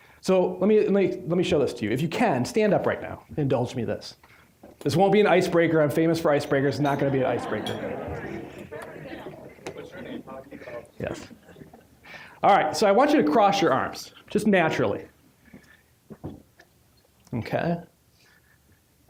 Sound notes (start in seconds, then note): 6.5 audience laughing; 8.4 general chatter